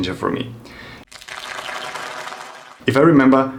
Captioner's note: audience applauds